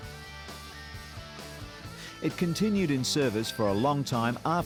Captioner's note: engine roaring